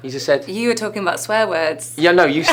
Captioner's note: laughs